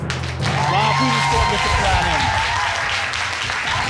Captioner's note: audience clapping